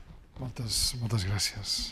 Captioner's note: speaking spanish